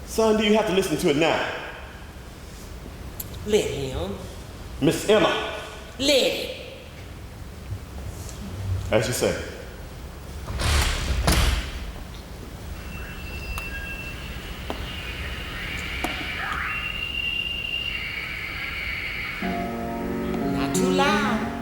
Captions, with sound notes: - Son, do you have to listen to it now? - Let him. - Miss Emma. - Let him. - As you say. (static) (gentle music) - Not too loud.